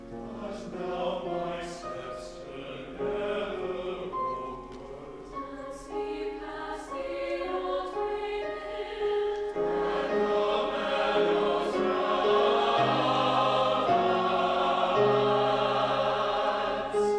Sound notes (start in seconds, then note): 5.6 high voices; 9.9 whole choir